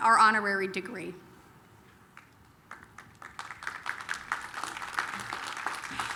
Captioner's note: applause